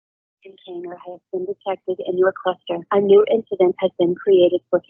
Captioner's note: automated voice